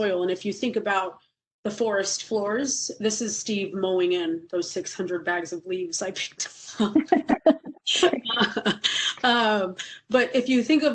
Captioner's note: laughing